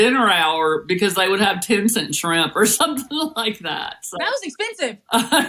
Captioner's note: laugh